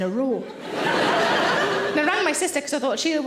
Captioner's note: audience laughing